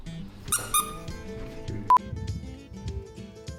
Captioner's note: toy squeaking; light bluegrass music